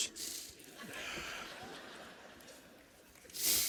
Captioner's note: laughter